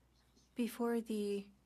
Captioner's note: speaking French